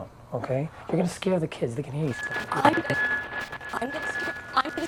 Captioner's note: buzzing